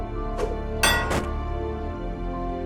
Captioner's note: metallic thud